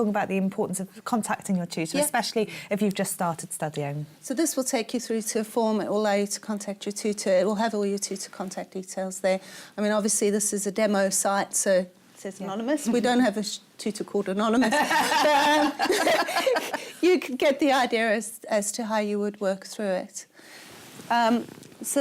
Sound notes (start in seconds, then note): 14.6 laughter